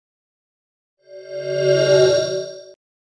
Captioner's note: swoosh